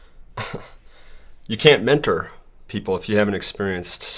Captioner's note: chuckles